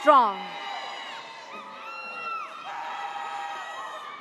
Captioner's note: audience cheers